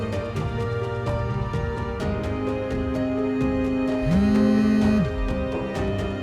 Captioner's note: phone vibrates